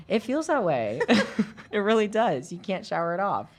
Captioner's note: both laughing